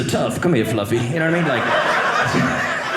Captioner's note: audience laughing